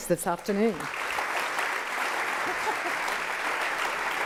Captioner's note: applause